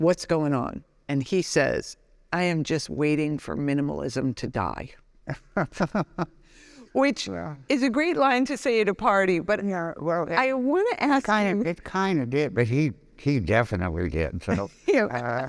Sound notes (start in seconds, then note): 5.3 laughing; 14.5 laughing